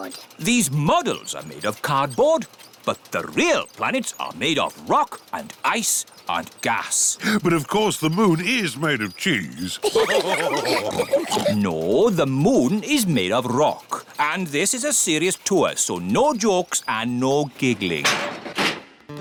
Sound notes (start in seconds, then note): 9.6 all laugh